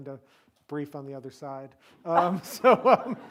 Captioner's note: laughs